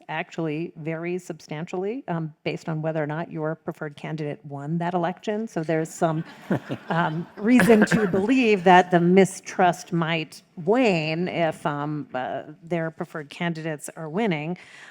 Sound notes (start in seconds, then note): 6.2 crowd laughs